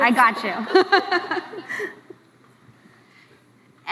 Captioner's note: laughs